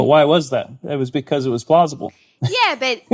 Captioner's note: laughs